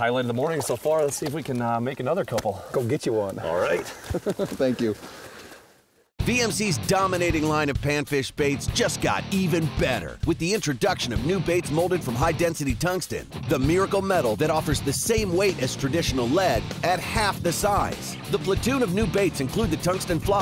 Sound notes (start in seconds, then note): 3.4 laughs; 6.9 voiceover